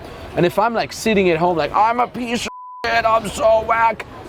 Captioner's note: beep